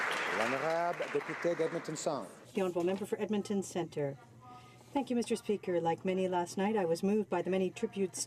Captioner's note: applause